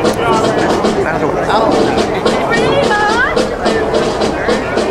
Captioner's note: audience chattering